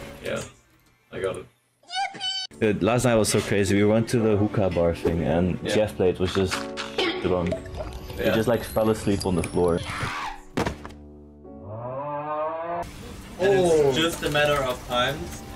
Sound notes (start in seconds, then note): 10.6 thud; 11.5 snoring